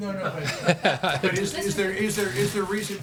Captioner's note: laughter